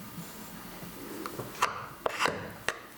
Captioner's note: clattering, scraping